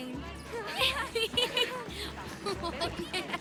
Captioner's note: laughs; laughing